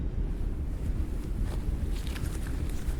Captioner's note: wind blowing